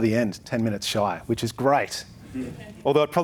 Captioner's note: audience chuckles